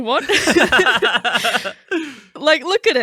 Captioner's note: laughing